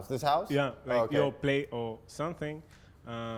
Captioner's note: voiceover